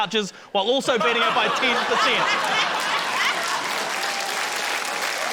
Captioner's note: laughter, applause